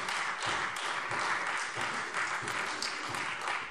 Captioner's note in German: Beifall